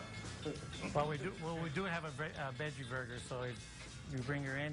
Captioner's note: laughing